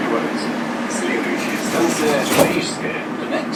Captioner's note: closing doors